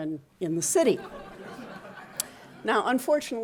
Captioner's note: audience laughing